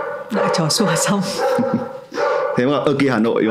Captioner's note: dog barking